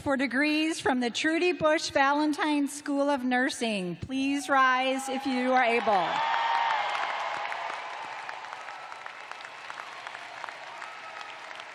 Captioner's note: cheers and applause